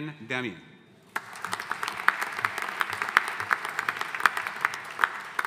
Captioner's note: audience applauding